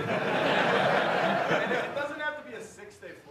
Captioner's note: audience laughing